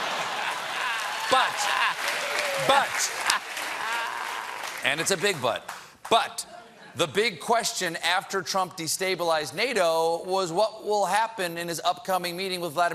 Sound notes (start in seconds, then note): 6.3 applause